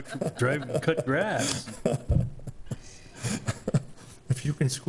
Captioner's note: laughing